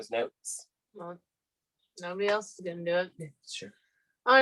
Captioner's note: in an emotionless, non-energetic, voice